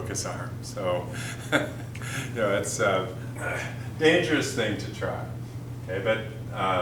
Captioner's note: chuckle